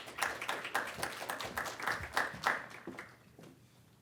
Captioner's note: audience clapping